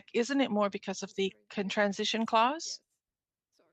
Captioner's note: speaking French